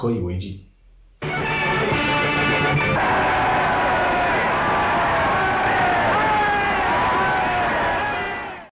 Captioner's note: cheers